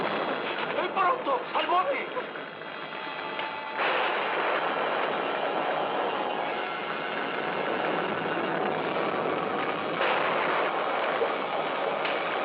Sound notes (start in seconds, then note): 9.6 thunderclap